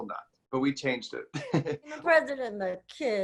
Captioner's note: chuckles